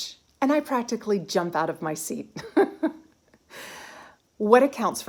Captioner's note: giggling